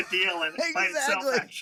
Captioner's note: laughs